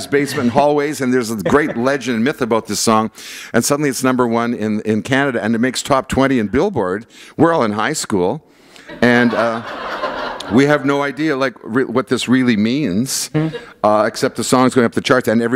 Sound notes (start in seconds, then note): 8.9 laughter